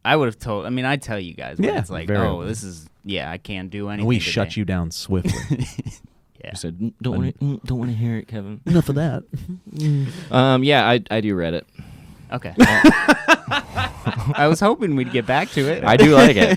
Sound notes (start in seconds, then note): 6.9 funny voice; 14.8 laughing